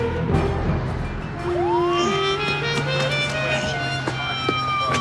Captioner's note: siren wails